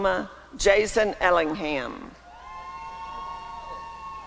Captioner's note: applause and cheering